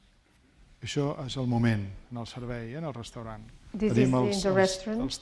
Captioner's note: speaking spanish